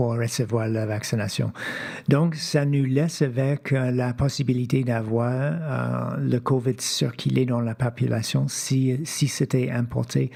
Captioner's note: speaking French